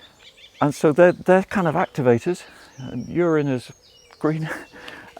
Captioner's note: laughs